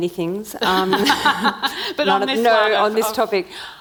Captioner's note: laughing